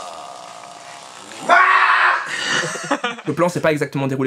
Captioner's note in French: cri lointain